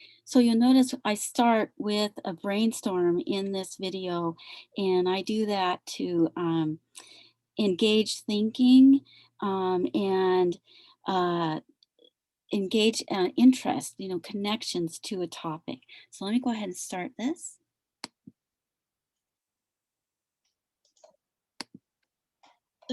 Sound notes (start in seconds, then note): 18.2 mouse clicks